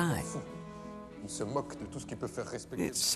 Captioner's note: man speaking in French